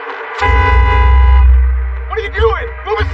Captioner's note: honking horn